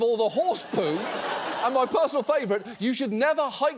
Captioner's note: audience laughs